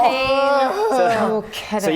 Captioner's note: collective groan